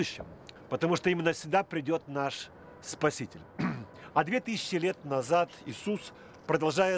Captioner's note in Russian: откашлялся